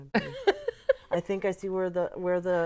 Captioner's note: laughter